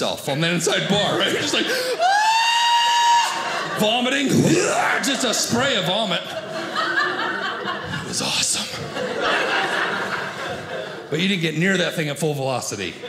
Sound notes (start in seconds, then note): 4.4 mimics vomiting; 9.3 audience laughing